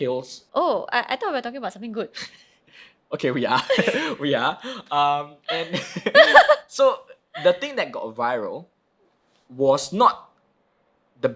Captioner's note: both laughing